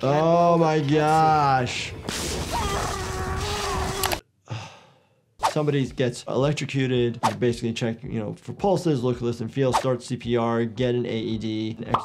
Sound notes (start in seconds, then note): 2.0 yelling; 2.0 zapping